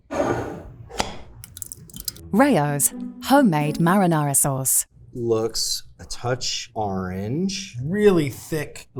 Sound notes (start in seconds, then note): 1.4 jar cap clacking; 1.4 sauce sloshing; 1.5 jar scraping